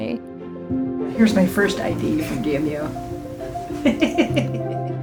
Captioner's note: laughs